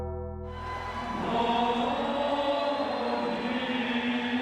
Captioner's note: dramatic music; crowd cheering